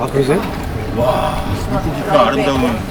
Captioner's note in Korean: 감탄